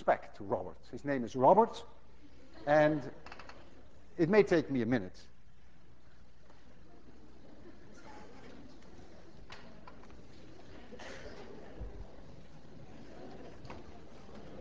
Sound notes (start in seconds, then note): 7.1 class murmurs